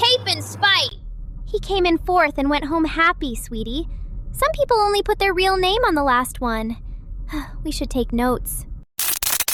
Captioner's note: breath